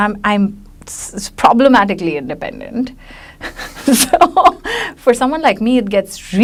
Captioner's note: laughs